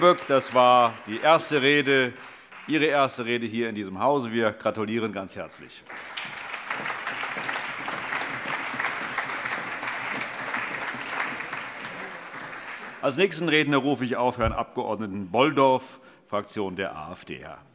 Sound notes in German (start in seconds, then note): 5.8 Allgemeiner Beifall